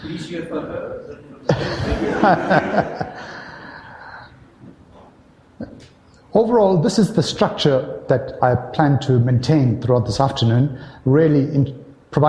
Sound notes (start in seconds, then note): 4.4 audience laughter